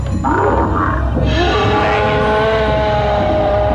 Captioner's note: men yelling, groaning